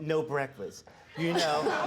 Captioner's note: audience laughing